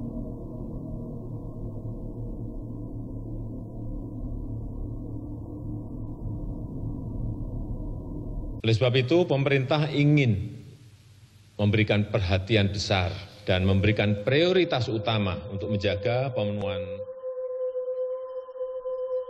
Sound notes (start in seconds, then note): 8.6 announcer on TV